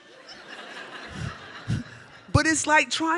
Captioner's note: audience laughs